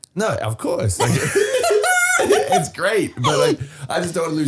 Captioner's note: all laughing